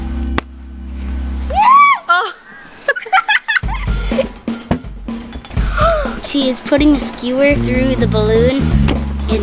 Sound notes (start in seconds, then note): 0.3 pop; 2.0 laughing; 5.5 gasps